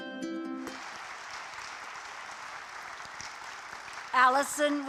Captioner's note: applause